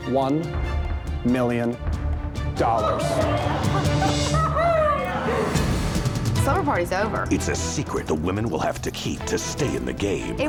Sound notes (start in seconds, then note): 2.6 contestants exclaiming